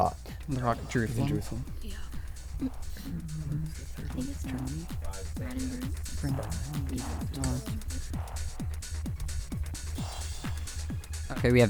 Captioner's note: wispering